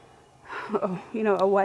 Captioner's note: heavy sigh